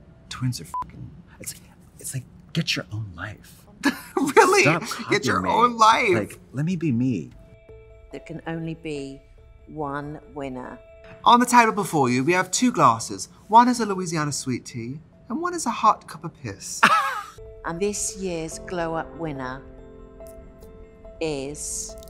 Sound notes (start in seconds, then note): 16.8 Katya laughs; 21.8 suspenseful music